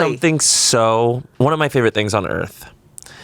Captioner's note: none